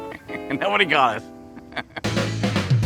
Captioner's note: laughs